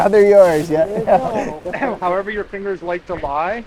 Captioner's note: climbers chuckling